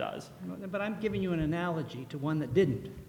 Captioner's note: voiceover